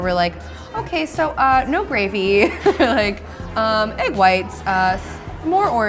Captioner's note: laughing